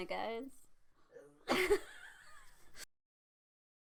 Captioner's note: big lols